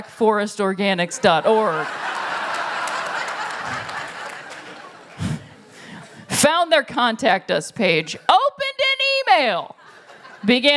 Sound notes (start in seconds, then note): 1.2 laughter